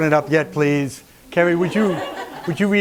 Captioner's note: laughter